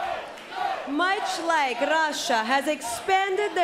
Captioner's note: fans chanting